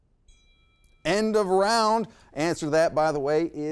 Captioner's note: chime rings